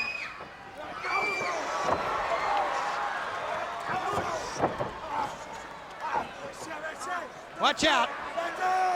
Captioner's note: crowd cheering